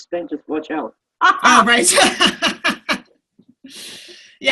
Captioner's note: laughter